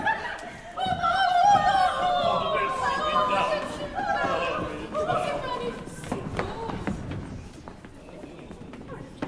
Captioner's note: laughs; cries of joy